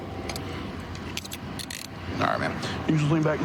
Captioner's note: handcuff closing